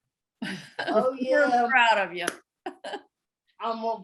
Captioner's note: laughter; laughter